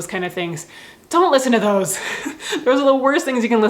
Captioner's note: laughs